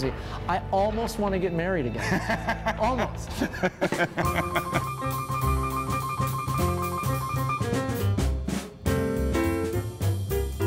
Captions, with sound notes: I almost want to get married again. (laughter) (upbeat music)